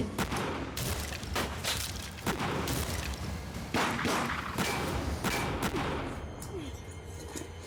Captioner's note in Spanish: continúa fuego cruzado